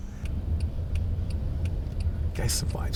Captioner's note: car indicator ticking